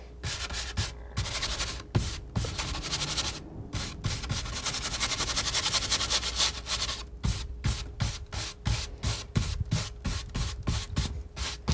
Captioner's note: scratching